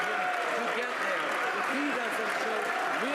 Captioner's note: some Applause